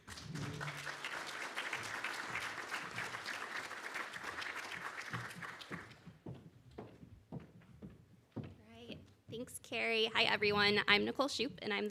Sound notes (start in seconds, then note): 0.0 audience clapping; 5.7 foot step stumping